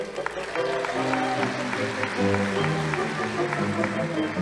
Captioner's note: audience applauding